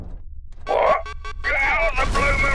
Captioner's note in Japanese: アラーム音